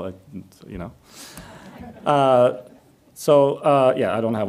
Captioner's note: audience laughs